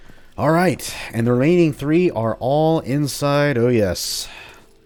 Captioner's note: none